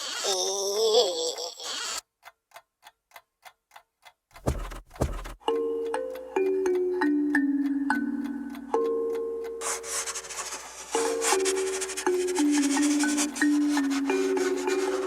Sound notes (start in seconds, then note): 0.1 Janusz groaning; 0.1 insect creaking; 2.7 clock ticking; 4.3 footsteps plodding; 5.6 pensive music; 9.6 brush rasping; 9.8 pensive music continues